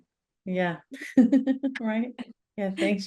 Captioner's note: chuckles